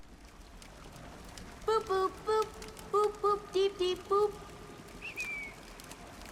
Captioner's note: whistle